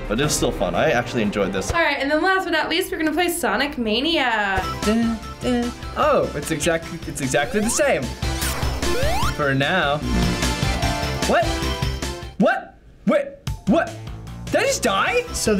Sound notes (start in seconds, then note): 5.2 hums